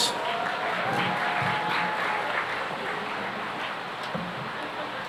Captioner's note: cheering and applause